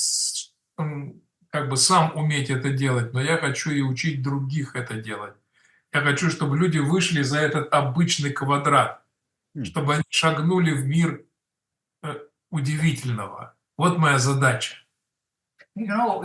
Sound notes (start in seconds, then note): 7.0 Russian